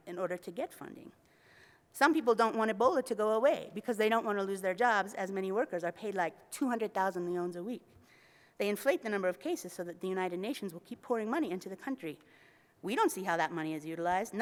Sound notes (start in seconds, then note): 7.2 foreign language